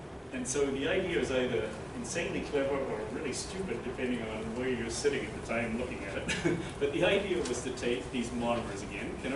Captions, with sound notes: And so the idea is either insanely clever or really stupid depending on where you're sitting at the time, looking at it. (laughter) But the idea was to take these monomers again,